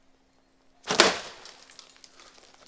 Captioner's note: glass shatters